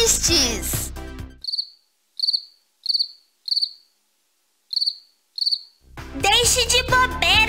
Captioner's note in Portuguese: cri... cri... cri